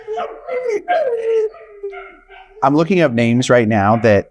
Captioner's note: dogs whining